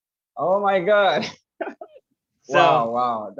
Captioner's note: laughs